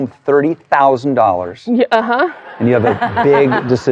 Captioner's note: all laughing